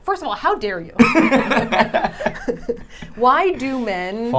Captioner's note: laughing